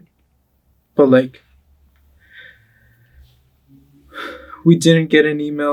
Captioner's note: sighs